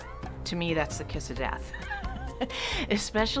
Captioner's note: laughs